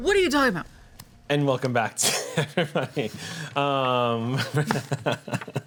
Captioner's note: laughs